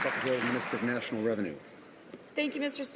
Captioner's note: some Applause